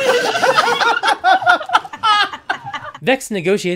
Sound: laughter

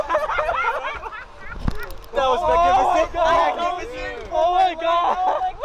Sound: crowd chattering; men laughing; crowd chattering

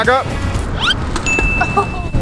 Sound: dinging sound; laughs

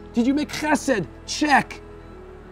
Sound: speaking in a foreign language

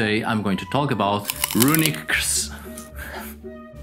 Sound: chewing sounds

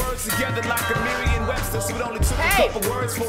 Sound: doorbell ringing

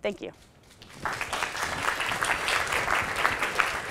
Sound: applause

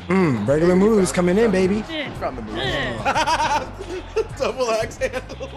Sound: laugh

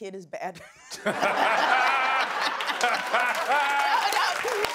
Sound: laughter

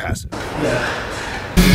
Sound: male grunting

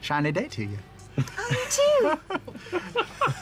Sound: group laughter

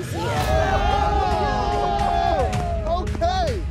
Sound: group cheers

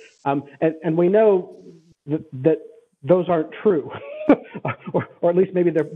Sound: laughs

